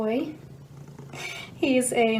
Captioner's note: audible purring